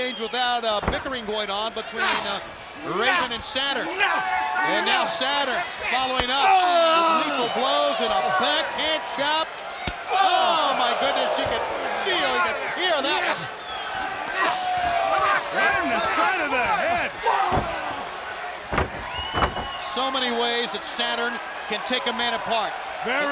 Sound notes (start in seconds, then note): 1.8 men grunt